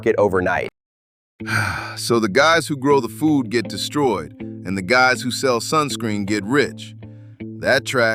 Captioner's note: sigh